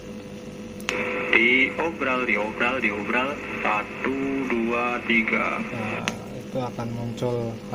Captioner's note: recorder voice heared